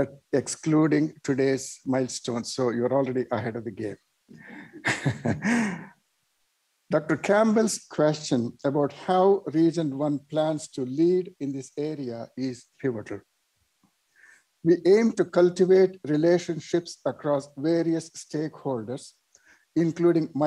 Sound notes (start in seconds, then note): 4.5 laughter